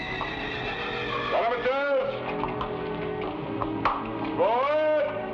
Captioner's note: horse whinnies; lieutenant shouts